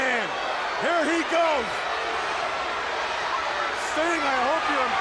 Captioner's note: crowd cheering